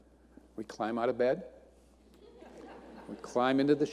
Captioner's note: audience laughing